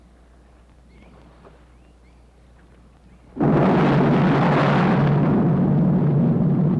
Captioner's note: explosion